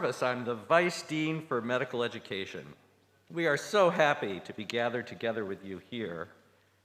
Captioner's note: none